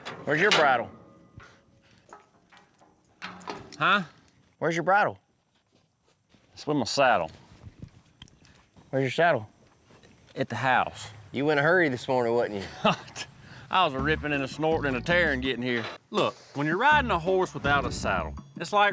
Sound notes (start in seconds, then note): 12.5 laughs